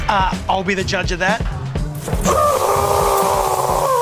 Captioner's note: sizzling; shrieks